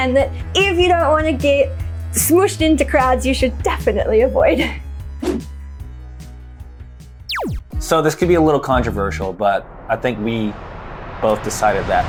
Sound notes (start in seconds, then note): 5.2 scene whooshing; 7.3 laser zapping; 9.2 wind whooshing